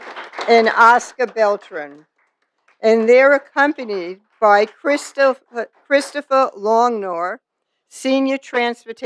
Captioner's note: applause